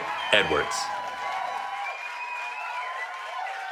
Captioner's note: cheering